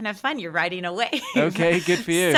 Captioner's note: laughing